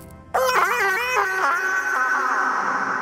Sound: screams

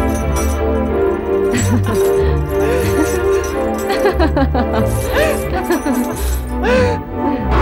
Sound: laughs

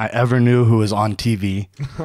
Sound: laughs

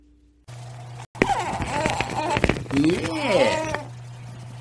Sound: tape recording

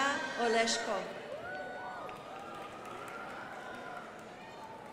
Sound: crowd applauding

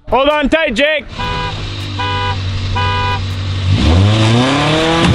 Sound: honking; engine revving

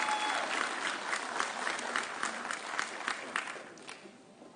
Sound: audience cheering

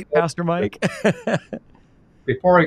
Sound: laughing

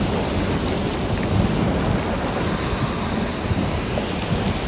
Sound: water splashing

